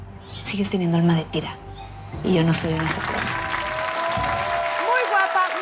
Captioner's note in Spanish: Aplausos